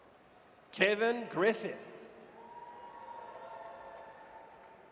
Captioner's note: audience cheers